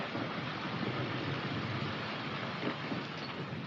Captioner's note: none